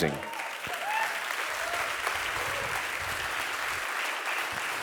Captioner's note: audience applauding